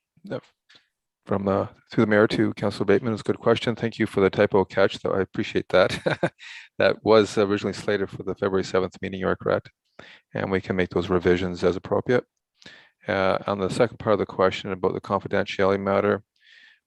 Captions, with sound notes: - Through the Mayor to Councillor Bateman is a good question. Thank you for the typo catch though I appreciate that (laughs) that was originally slated for the February 7th meeting you're correct and we make those revisions as appropriate. On the second part of the question about the confidentiality matter